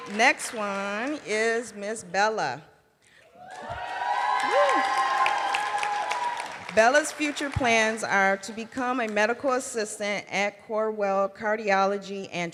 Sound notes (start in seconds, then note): 0.0 cheering and applause; 5.1 cheering and applause